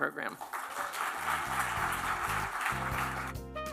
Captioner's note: applause